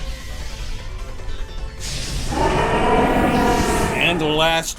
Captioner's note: roaring caw